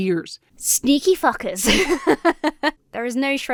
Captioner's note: laughs